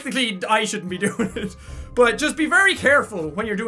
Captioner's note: giggles